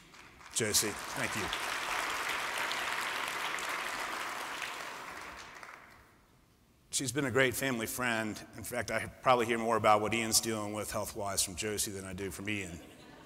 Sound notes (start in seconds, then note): 2.1 applause; 12.7 laughter